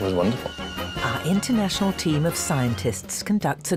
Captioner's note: voiceover